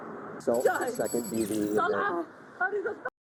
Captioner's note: speaking in Arabic